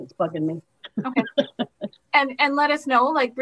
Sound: laughs

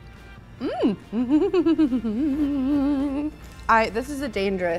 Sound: giggles

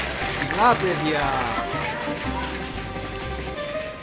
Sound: speaking in Greek

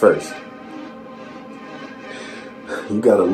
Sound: chuckles

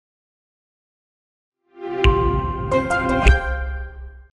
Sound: Intel chime

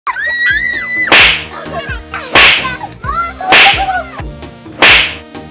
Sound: kids screaming and whip sounds

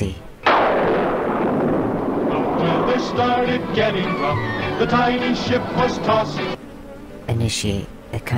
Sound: thunder crashes!

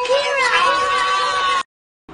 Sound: more aggressive AHHHHH

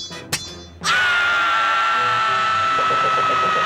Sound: screaming

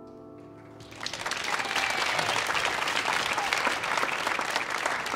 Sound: audience cheering

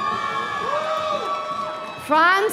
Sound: audience cheering

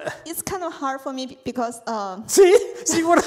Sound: laughs

